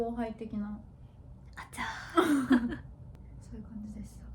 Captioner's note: laughs